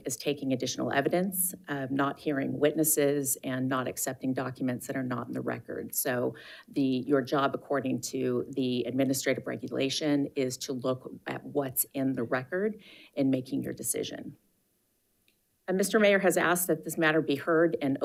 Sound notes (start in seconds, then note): none